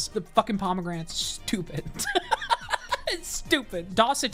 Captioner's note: laughs